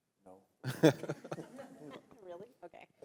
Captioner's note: panelists laugh